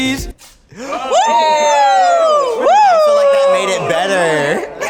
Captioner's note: participants applaud